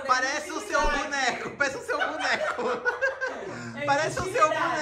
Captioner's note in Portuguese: risos